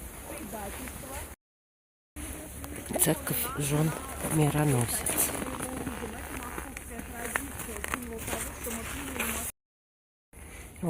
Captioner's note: snow crunching